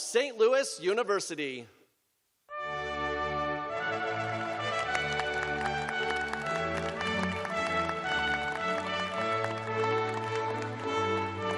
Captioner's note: applause